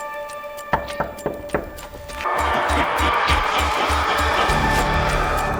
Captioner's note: dramatic music; knocking